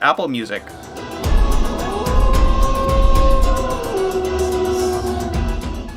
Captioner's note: wolf howling amidst Apple's copyrighted music